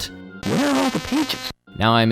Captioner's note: through a painful buzzing noise